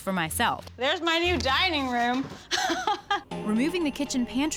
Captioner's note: laughs